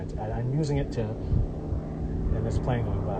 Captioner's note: airplane engine